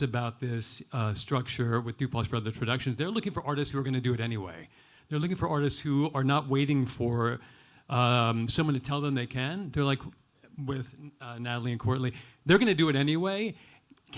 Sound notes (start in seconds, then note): none